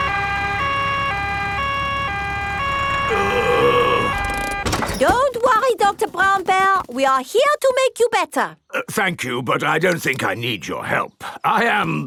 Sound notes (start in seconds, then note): 0.0 siren wailing; 3.0 groaning